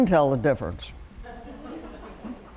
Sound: laughter

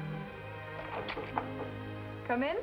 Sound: soft knocking

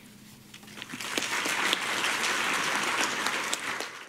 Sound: applause

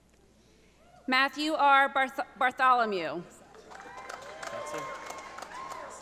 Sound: audience applauding

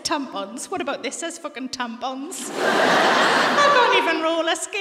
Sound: laughter

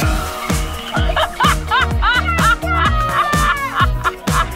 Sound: laughter

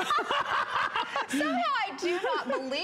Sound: laughter

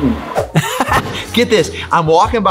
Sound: laughs

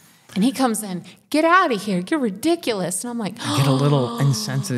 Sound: 'gasp'

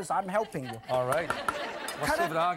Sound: laughing

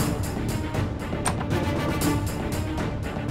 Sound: door opening

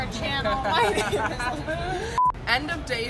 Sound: both laugh

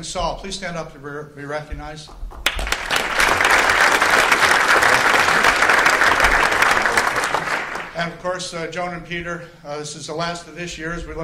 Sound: applause

